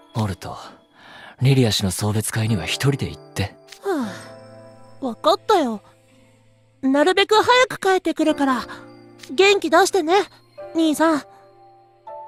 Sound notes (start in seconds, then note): 3.8 sigh